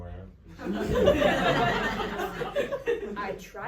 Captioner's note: audience laughs